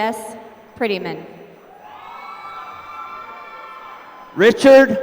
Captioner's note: applause